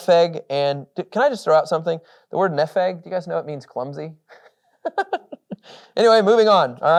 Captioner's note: chuckles